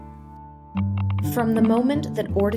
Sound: voiceover

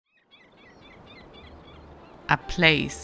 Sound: birds cawing

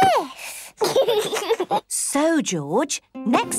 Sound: giggles

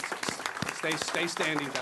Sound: applause

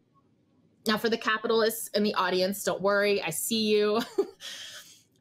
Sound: chuckles

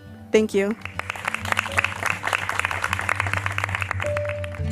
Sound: applause

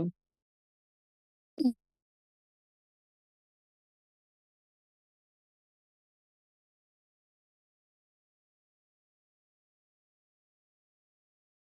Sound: silence

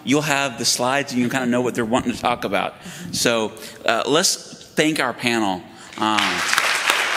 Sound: applause

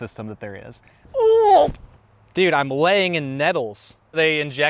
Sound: groans

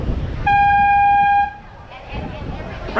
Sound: airhorn

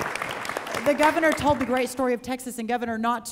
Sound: applause

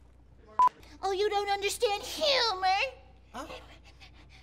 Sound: mocking

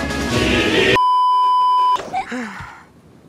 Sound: beeeeeep

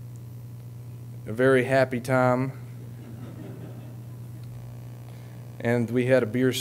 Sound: audience laughing

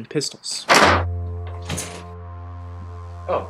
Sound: slam!

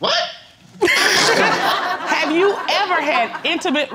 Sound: all laughing; laughs

